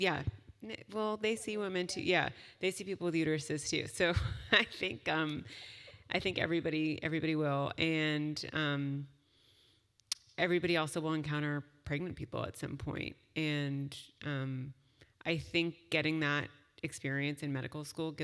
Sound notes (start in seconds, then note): 4.3 laugh